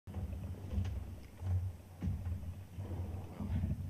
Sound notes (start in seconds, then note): 0.1 soft thumping